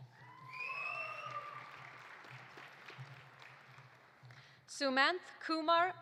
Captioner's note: audience cheering; audience applauding